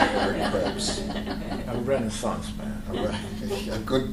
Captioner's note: laughter